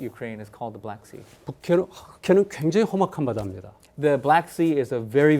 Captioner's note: speaking in Korean